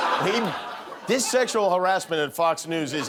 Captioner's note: laughter